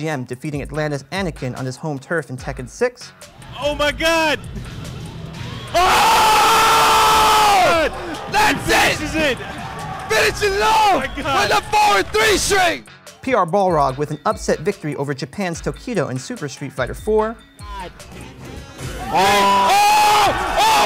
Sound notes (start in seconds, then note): 5.7 yelling